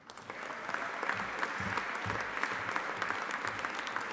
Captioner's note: audience applauding